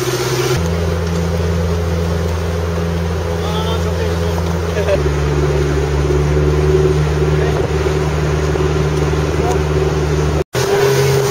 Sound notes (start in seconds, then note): 5.2 speed boat noises